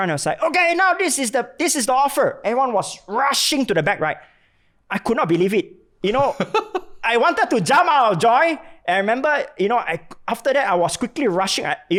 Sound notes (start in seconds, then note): 6.1 laughs